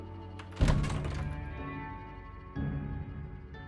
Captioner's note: door opens